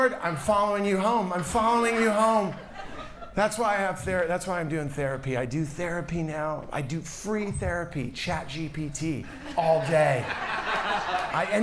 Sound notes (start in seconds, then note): 1.0 audience laughs; 9.2 audience laughs